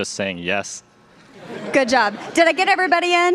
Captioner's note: laughter